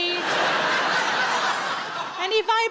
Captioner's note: audience laughs